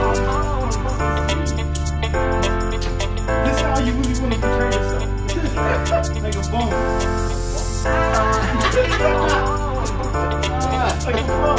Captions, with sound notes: - This how you really want to portray yourself? (laughter) (chill house music)